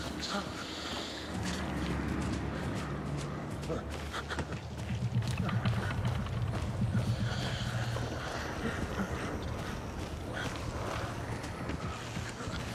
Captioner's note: panting